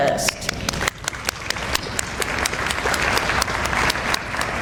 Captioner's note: audience applauds